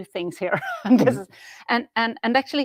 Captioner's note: laughs